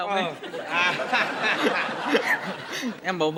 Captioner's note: laughing